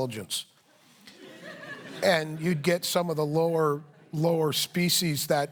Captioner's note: laughter